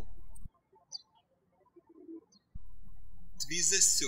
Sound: birds chirping

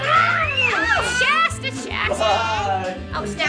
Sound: screams

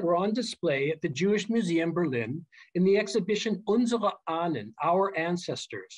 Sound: german

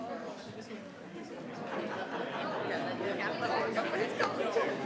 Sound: people chattering

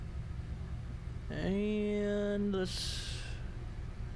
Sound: sigh

